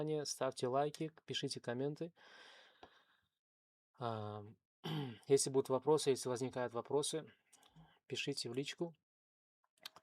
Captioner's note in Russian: откашливается